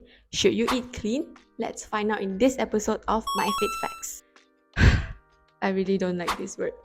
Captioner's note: sigh